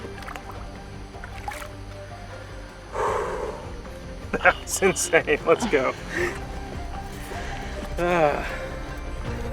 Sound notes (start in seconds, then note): 1.1 gentle fish splash & swim away; 2.8 exhale